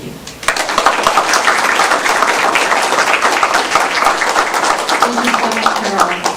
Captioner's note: applause